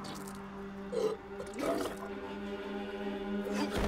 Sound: retching

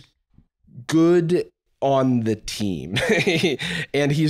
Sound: laughs

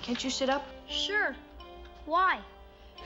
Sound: none

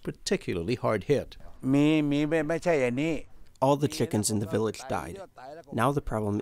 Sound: through translator

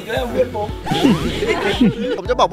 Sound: chuckles

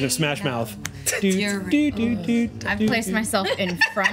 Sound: overlapping chatter

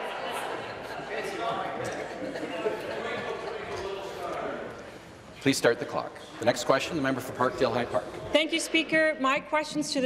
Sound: laughter

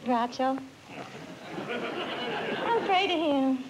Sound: laughter

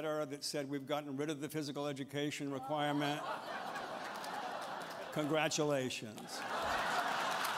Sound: laughter

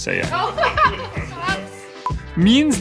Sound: laughs

